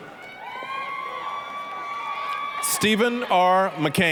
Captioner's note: applause, cheering